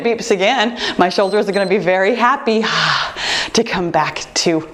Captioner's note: timer beeps